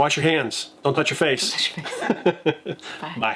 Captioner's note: laughing